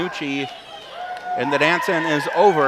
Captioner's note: crowd cheers